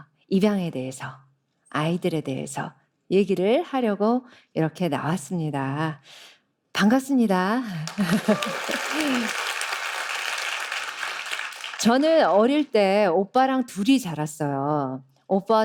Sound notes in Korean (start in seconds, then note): 7.8 박수